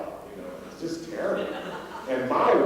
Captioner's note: laughter